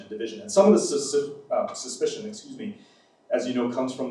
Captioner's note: stutters